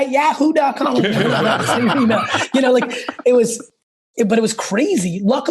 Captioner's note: laugh